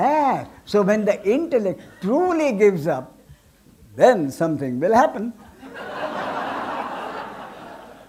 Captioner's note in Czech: smích